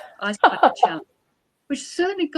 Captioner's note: laughs